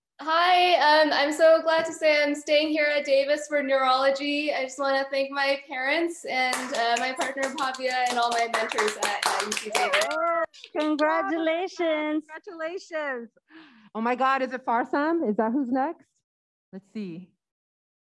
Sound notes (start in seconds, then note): 6.4 clapping